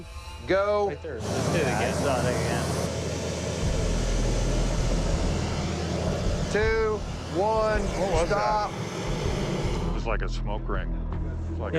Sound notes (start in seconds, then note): 3.3 burner whooshing